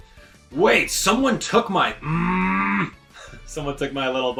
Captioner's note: growls